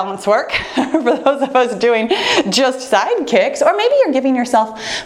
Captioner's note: laughs